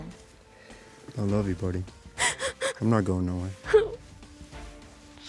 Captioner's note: sobbing